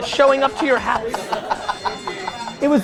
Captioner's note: laughs